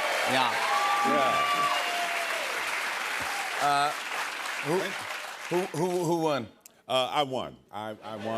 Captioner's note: cheers and applause